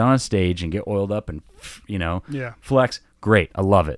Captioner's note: blowing through teeth